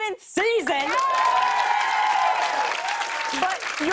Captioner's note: cheers and applause